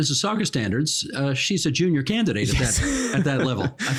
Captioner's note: laughing